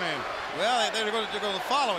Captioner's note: crowd chatter